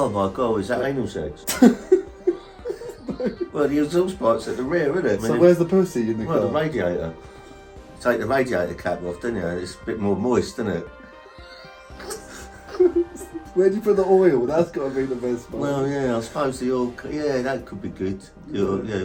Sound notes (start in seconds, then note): 1.4 both laughing; 11.6 both laughing